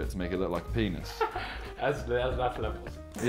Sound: laughs

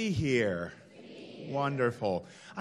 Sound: crowd

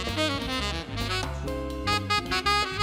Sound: none

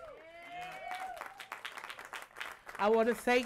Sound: applause

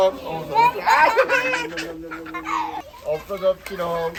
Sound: laughing

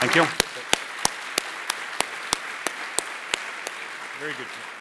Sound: applause

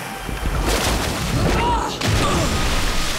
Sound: groaning

